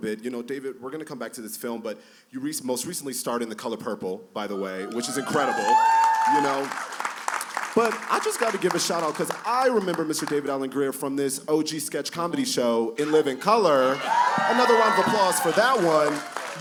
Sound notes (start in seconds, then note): 4.7 cheers and applause; 13.0 cheers and applause